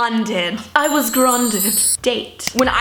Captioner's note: magical chiming